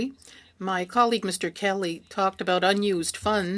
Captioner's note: speaking French